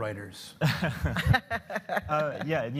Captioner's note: laughter